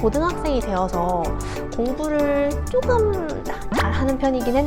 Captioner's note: laughs